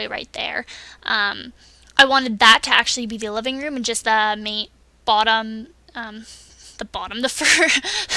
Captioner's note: laughs at the word bottom